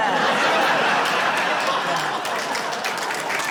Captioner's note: laughter, applause